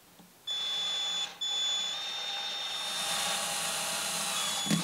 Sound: whirring drill

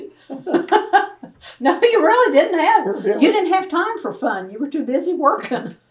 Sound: laughter; laughs

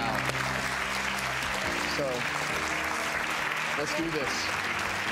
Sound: audience applauding

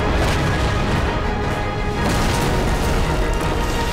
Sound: thudding

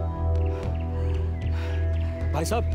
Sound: panting

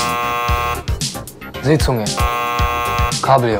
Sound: false buzzer sound; false buzzer sound

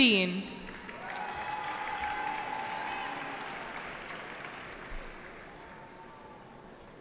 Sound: cheering

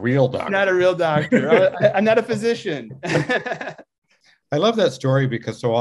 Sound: laughs

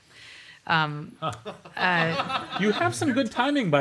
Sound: laughter

